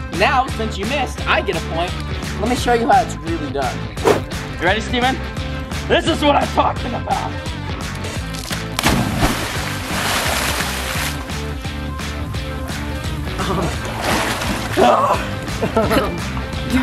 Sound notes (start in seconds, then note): 8.4 water splashing; 12.8 chuckles